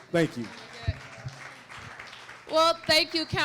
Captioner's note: applause